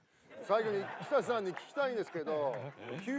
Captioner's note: traumatised laughter